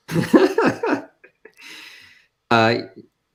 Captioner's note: laughs